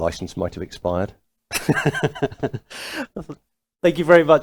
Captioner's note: laughing